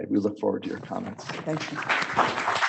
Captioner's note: audience applauding